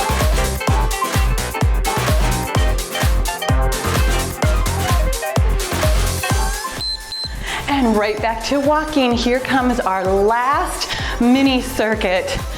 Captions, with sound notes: (timer beeps) And right back to walking, here comes our last mini circuit,